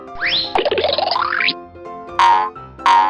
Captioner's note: cartoony blooping; boinging